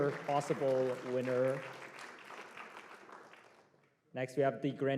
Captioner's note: applause